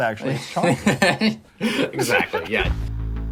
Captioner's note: laughs